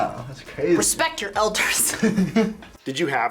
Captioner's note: both laugh